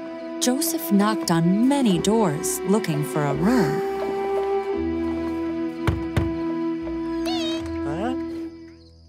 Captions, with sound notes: Joseph knocked on many doors, looking for a room. [KNOCKING]